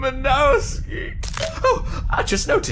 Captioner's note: clink